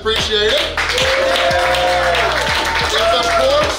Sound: cheering & Clapping

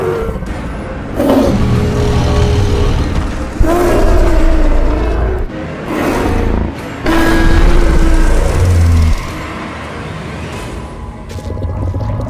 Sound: dinosaurs exchange roars

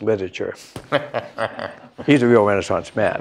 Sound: laughter

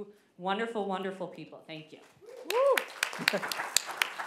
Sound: applause

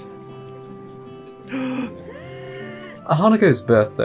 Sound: gasp

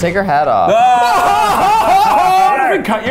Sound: shouting

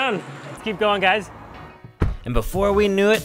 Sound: car door slams

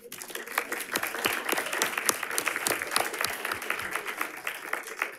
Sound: audience applauding

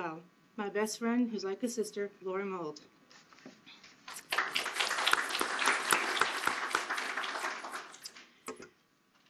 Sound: applause

